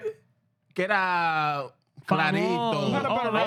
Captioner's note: speaking In Foreign Language